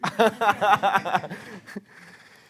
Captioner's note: risas